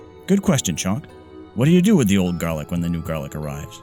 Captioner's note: none